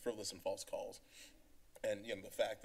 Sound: inhales

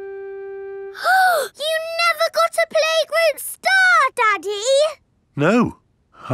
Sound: gasps

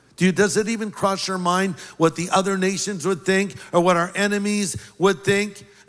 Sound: none

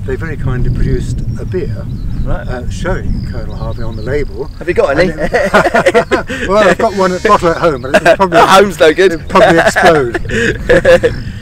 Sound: laughter

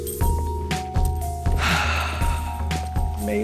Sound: sighs

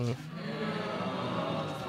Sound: audience groans

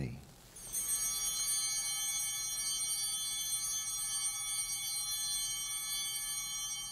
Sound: bell ringing

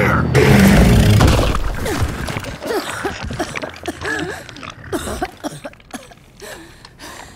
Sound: coughing

